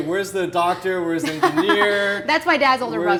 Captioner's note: Megan laughs